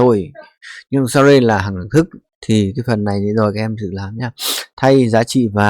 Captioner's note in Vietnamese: khịt mũi